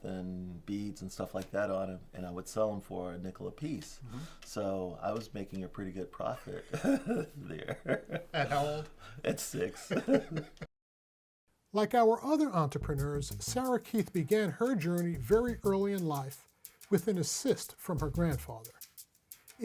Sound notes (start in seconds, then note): 6.6 both laughing